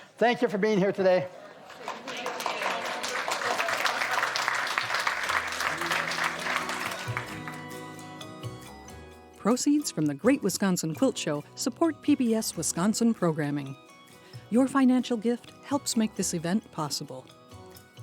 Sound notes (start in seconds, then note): 3.8 audience applauds